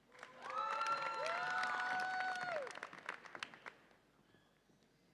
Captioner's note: audience applauds and cheers